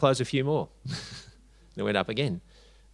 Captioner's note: chuckles